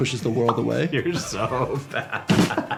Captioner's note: laughs; drum beats